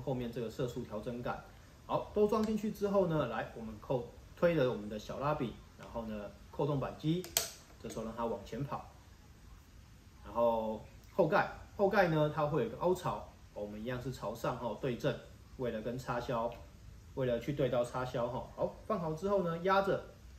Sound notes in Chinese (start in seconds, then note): 7.2 喀！